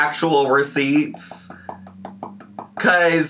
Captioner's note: tapping